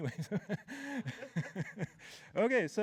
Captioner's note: laughter